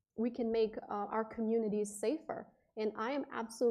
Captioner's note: none